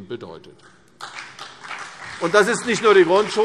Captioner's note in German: Beifall CDU und BÜNDNIS 90/DIE GRÜNEN